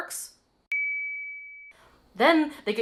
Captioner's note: ding